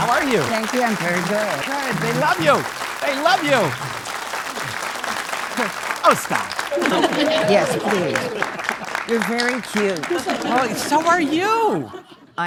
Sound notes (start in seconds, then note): 6.7 audience laughing